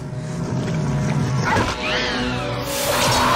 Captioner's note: shrieks